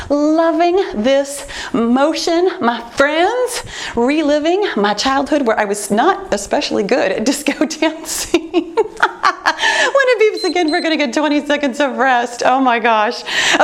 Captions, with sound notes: Loving this motion, my friends. Reliving my childhood, where I was not especially good at disco dancing. (laughs) When it beeps again, (timer beeps) we're gonna get 20 seconds of rest. Oh, my gosh.